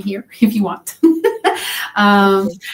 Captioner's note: laughs